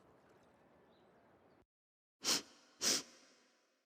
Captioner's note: sniffs